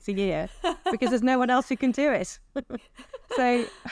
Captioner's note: laughs